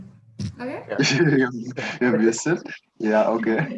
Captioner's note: laughs